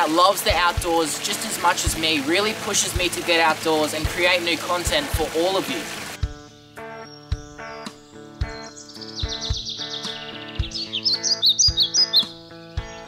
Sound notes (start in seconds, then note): 5.7 birds chirping; 8.9 guitar music